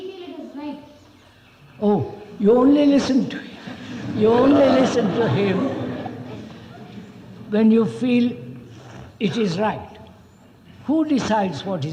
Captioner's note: laughter